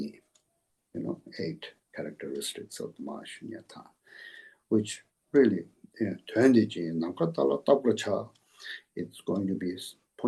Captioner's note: tibetan